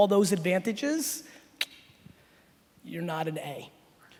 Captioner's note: clicks tongue